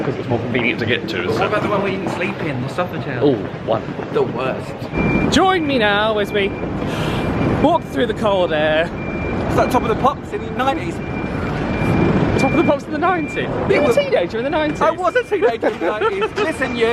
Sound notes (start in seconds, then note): 6.8 exhales; 14.9 laughs